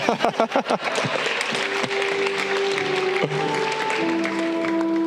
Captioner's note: person laughing